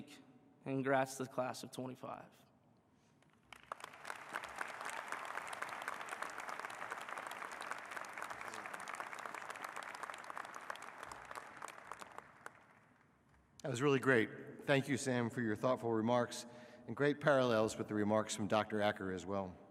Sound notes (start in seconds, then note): 6.7 applause